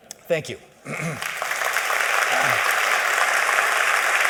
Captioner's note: applause